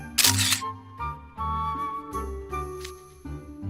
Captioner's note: snap